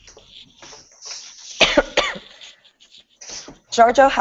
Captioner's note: coughing